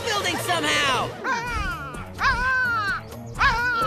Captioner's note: cawing